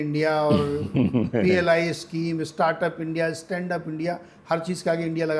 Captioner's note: sound of clearing throat